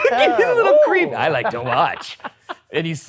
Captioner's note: laughs; laughing